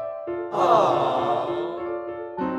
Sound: small crowd

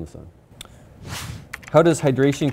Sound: air whooshing; keyboard clicking

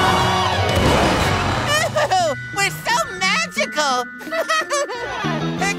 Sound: chuckles

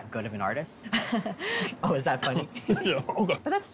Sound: laughs

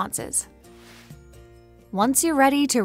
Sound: air swooshes

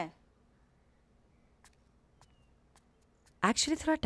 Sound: footsteps

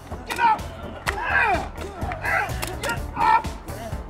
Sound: growns

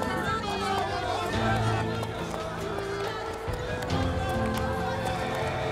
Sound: Kalabalık bağrışma sesleri

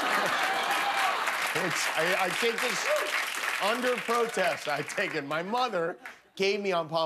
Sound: applause

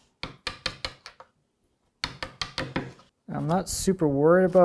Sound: hammer tapping

